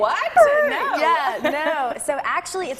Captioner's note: negative high pitch noise